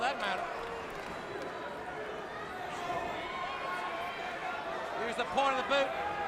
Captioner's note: crowd chatter